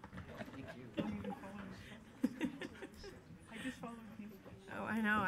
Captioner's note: people chattering faintly